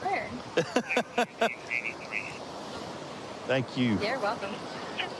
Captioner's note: laughing